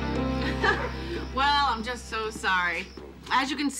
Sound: laughing

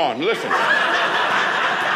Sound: audience laughing

